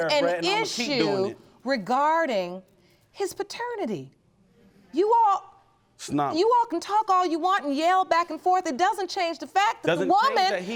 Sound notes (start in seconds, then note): none